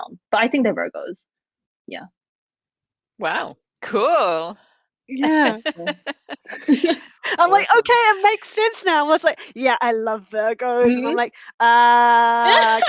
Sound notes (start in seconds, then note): 5.2 laughing